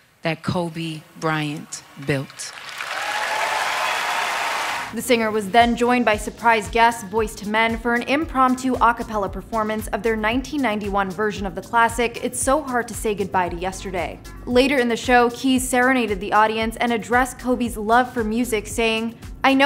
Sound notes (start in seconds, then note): 2.2 audience applauds; 2.3 audience cheers